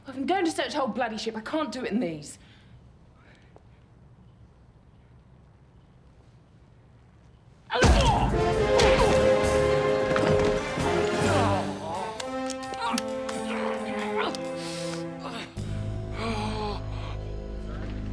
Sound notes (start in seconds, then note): 8.3 grunts with effort; 11.3 moans in pain; 13.3 grunts with effort; 16.2 moans in pain